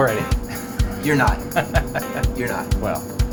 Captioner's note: laughing